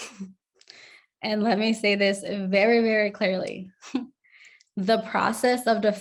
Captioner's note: chuckles